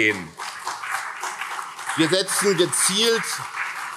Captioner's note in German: Beifall CDU und SPD